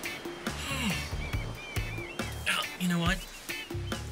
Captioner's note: exhales